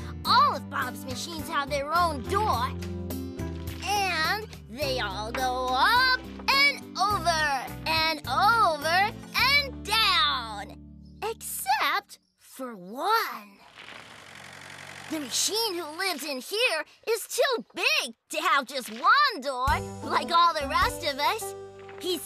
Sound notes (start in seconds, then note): 13.9 engine Rumbling